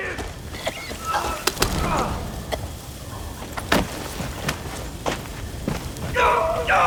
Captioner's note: coughing